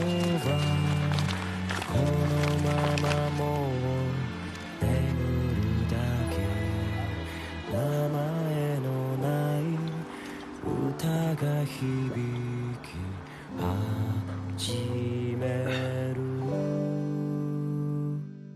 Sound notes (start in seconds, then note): 0.0 unravels paper bag; 8.5 swallows; 14.3 gulps, coughs slightly